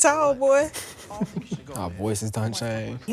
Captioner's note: chuckles